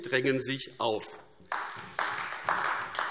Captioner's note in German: Beifall AfD